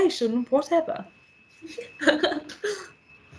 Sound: Isabella laughing

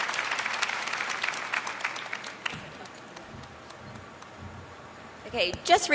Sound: applause

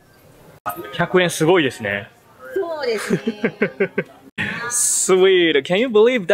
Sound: speaking in japanese

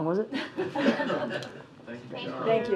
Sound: laughter

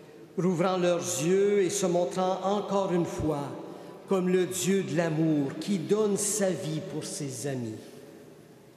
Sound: speaking French

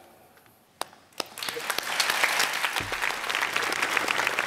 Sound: applause

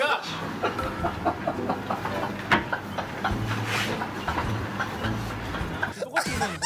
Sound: laughter

